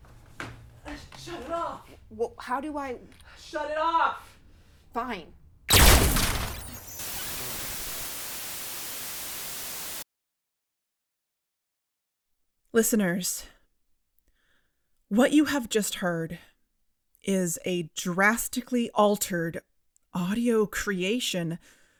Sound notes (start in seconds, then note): 5.7 explosion; 5.7 static